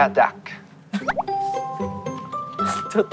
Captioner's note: laughing